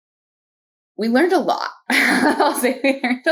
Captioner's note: laugh